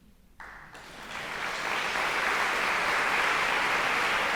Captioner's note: audience applauding